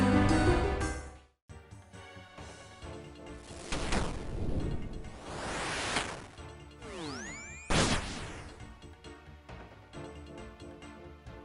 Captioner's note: in-game Audio